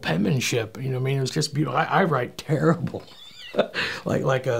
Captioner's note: laughing